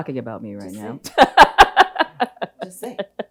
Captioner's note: laughs